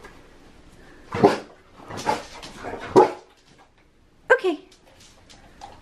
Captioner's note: Harlow ruffing